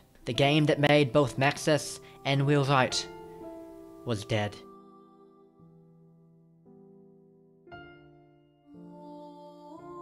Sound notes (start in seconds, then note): none